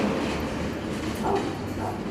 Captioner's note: dogs barking